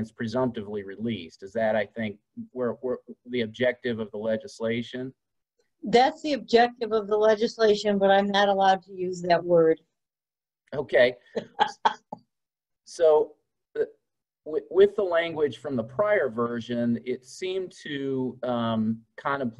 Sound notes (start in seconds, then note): 11.4 laughing